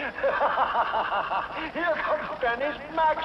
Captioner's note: laughs